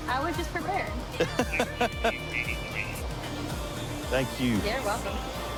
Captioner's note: laughing